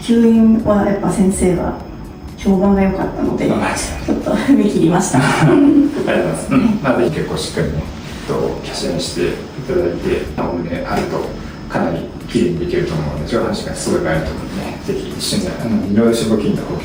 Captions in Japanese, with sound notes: 評判が良かったので ちょっと踏め切りました。 ありがとうございます。うん。[咳払い] まあ是ひ結構しっかりねとキャしてただいてお胸あるとかなり綺麗にできると思うんで上がすごいと思うんでね是非一緒にあの色金と補強はねかなり相性がいいかなと思いますね。どこで見てくれたの?